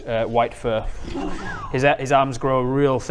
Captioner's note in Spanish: silbido bajo